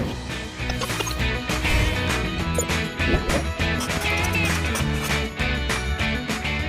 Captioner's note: upbeat music; marker scratching